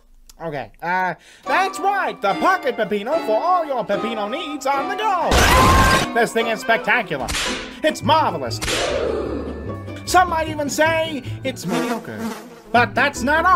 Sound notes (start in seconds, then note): 5.3 horrific car crash oh my god; 8.6 whip crack